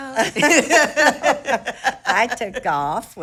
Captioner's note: both laughing